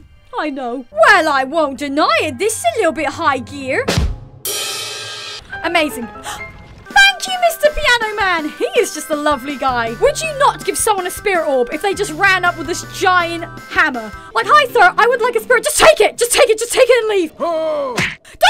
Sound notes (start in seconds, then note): 6.2 gasp